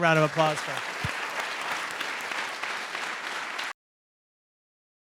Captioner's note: applause